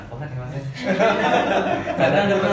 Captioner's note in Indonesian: tertawa